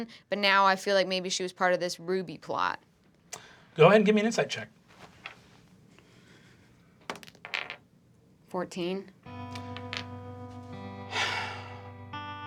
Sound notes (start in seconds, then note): 7.0 dice bouncing; 9.2 gentle music